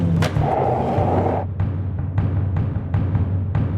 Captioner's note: skateboard rolling